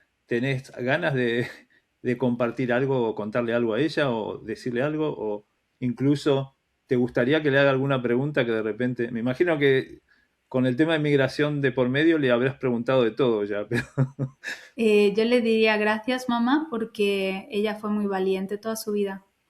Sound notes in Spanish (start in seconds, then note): 13.7 risas